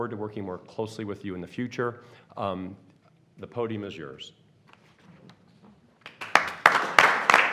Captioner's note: applause